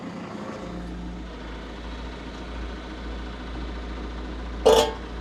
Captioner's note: machinery continues rumbling